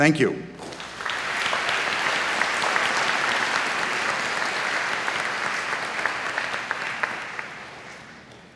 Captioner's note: applause